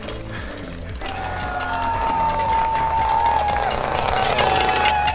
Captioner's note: crowd cheering